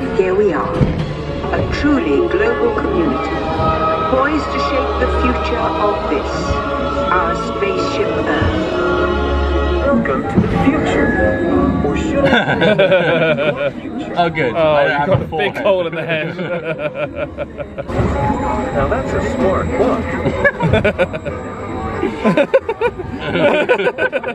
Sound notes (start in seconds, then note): 12.2 both laughing; 18.1 chuckles; 21.8 laughing